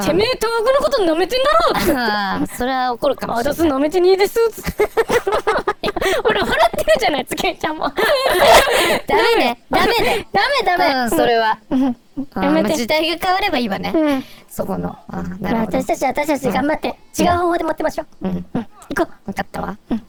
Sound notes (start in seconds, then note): 4.4 laughing